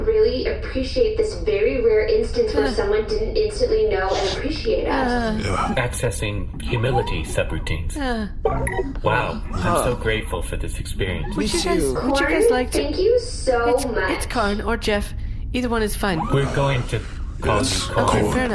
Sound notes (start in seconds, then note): 5.9 the crew sigh thoughtfully; 8.4 beeping